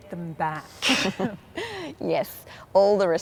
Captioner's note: laughs